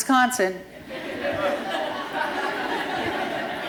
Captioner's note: laughter